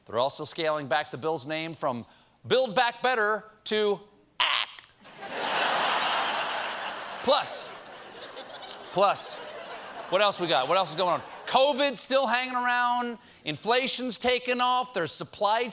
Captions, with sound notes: THEY'RE ALSO SCALING BACK THE BILL'S NAME, FROM BUILD BACK BETTER TO "ACK!" ( LAUGHTER ) PLUS, COVID'S STILL HANGING AROUND, INFLATION'S TAKING OFF,